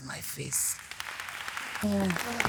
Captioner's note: audience applauding